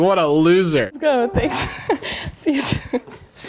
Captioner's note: chuckles